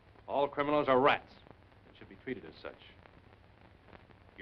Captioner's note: none